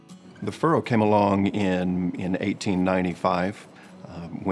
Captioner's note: voiceover